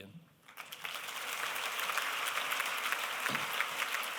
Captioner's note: applause